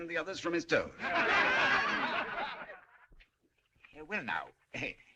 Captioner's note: جمهور يضحك